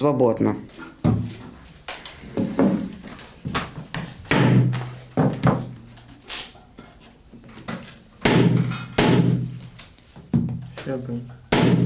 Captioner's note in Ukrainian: стукіт молотка